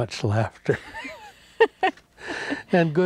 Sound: both laughing

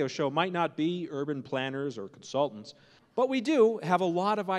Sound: none

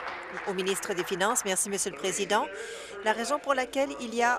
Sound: applause

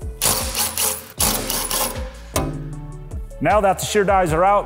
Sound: driver whirring

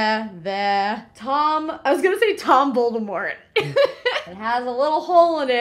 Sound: laughs

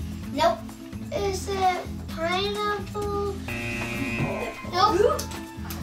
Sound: buzzer

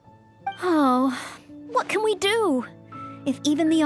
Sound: sigh

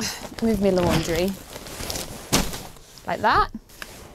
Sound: rustling; thud

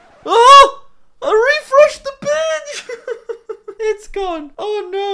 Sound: laughs

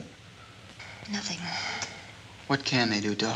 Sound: sighs

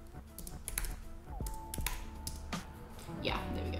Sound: keyboard clicking

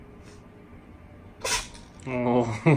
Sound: Kuma sneezes

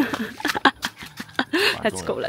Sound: laughing

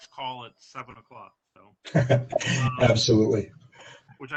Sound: laughter

